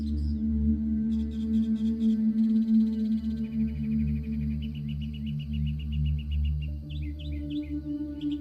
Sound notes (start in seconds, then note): 2.5 birds chirping